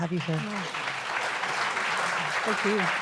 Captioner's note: applause